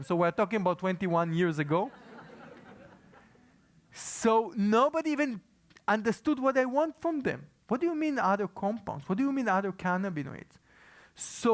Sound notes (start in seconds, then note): 1.9 laugh